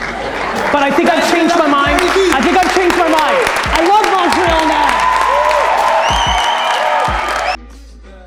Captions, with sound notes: (audience applause) But I think I've changed my mind. I think I changed my mind! I love Montreal now! (audience cheers)